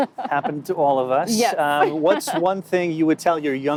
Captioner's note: laughing